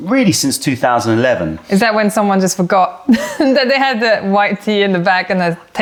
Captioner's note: laughter